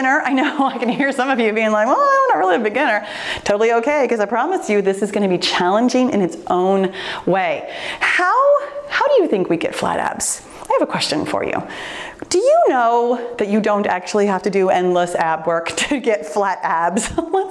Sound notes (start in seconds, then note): none